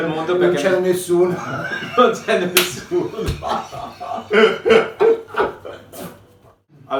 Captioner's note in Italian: Risate